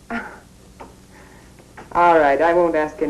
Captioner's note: chuckles